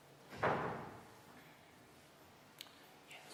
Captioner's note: whispering